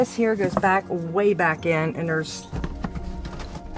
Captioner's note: shuffling through boxes